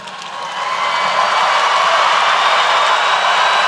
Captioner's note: cheering